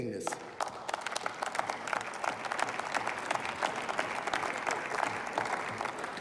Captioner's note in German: Beifall